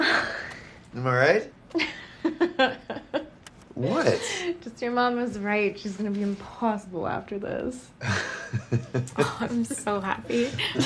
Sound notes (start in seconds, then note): 1.8 Lisa laughing